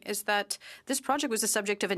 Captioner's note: speaking in French